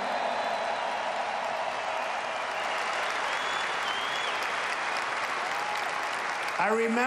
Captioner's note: applause